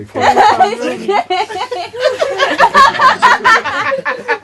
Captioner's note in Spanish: risas